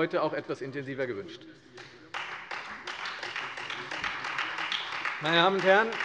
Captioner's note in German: Beifall Freie Demokraten und vereinzelt SPD